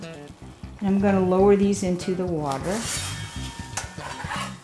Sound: metal sliding

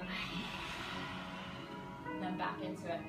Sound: lion's breath

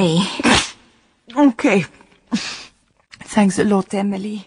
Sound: she sneezes

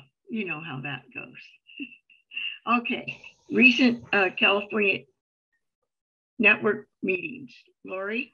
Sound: chuckles

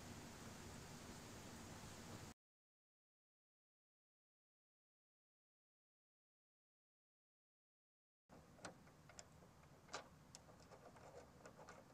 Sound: slience

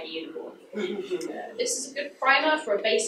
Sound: audience laughs

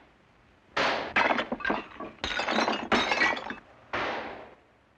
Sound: exchanging gunfire; pottery breaking; gunfire

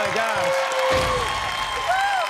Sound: cheers and applause

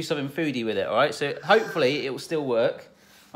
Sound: gasps

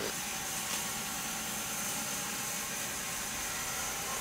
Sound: saw revving

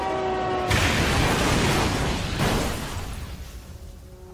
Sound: crashing

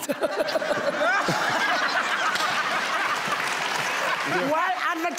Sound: crowd cheering

